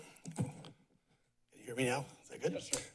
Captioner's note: mic noise